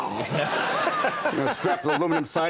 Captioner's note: audience and Conan laugh